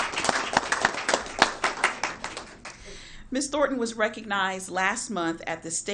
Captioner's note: applause